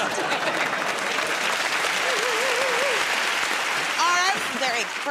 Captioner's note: applause